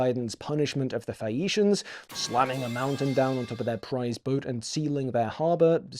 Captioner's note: metal crash sound fx